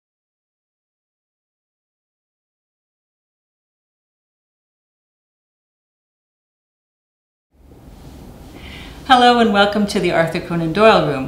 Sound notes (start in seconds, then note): 1.2 pause